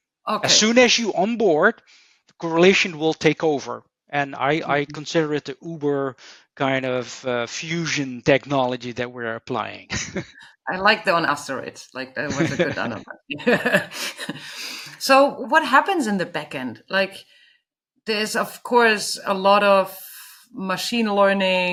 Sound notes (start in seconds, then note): 9.9 chuckles; 12.2 chuckles